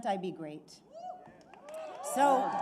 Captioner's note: applause